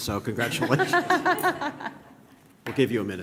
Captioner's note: laughter